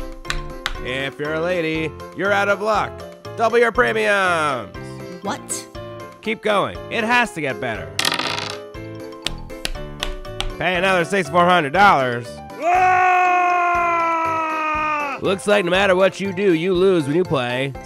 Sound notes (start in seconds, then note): 12.5 screams